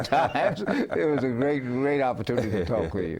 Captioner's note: laughing